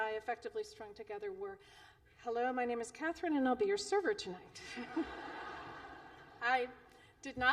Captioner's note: laughter